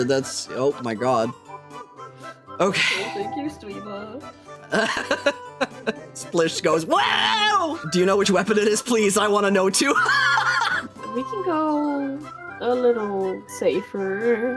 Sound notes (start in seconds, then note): 4.6 laughing; 9.8 laughing